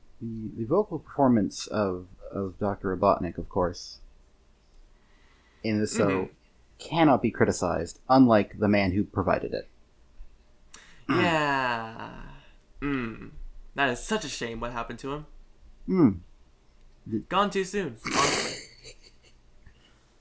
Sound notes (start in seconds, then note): 18.6 laughter